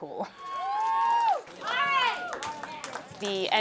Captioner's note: cheering